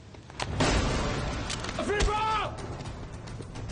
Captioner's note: yells